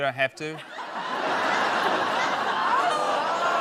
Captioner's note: laughter